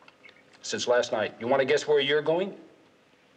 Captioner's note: none